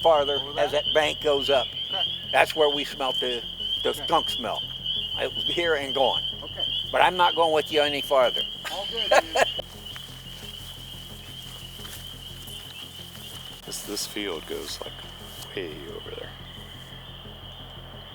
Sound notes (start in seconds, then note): 11.1 cicadas continue buzzing